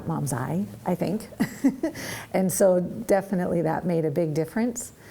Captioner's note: laughs